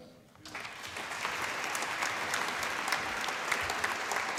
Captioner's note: applause